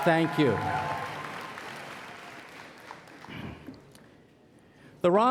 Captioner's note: applause